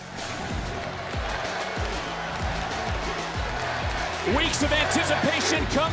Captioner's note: crowd cheeers